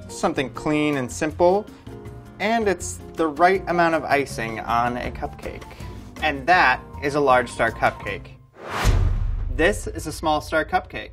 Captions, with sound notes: Something clean and simple. And it's the right amount of icing on a cupcake. And that is a large star cupcake. [whooshing] This is a small star cupcake.